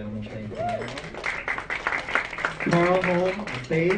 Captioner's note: audience clapping